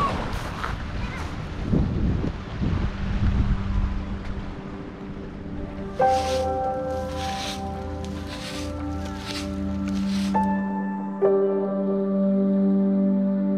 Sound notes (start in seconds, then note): 6.1 calming music; 7.6 brushing; 10.8 calming music